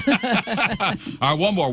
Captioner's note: laughing